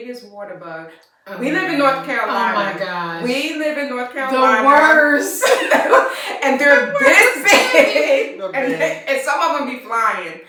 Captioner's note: laughter